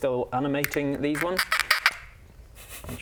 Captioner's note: duck swallowing a kazoo noises